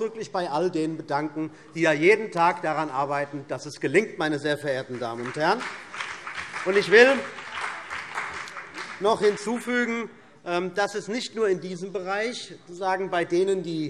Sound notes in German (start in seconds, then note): 4.7 Beifall CDU und BÜNDNIS 90/DIE GRÜNEN